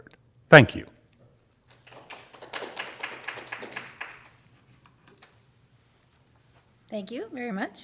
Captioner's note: applause